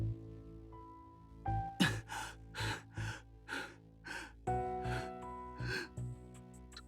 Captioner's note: pant